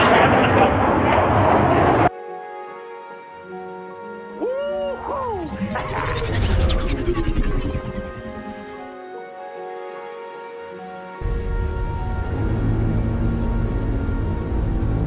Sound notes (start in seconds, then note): 8.2 fly-by spaceship; 8.2 light music